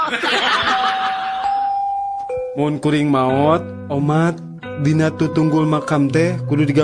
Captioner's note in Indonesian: tertawa